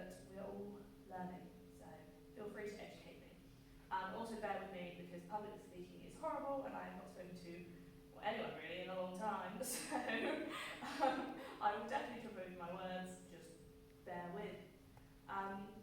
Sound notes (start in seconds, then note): 10.1 laughs